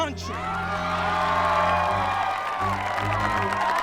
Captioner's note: cheers